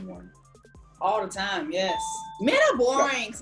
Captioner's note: bell chiming